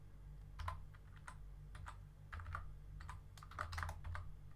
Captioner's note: keyboard typing